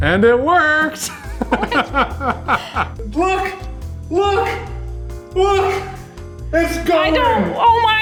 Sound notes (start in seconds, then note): 1.0 laughing